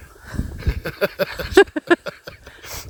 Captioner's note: laughs